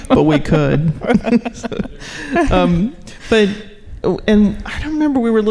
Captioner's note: laughing